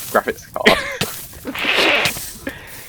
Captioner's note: laughing